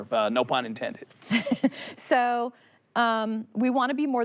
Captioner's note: laughs